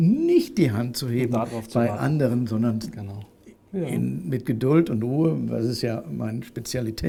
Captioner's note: laughs